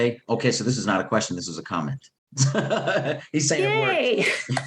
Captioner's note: laughs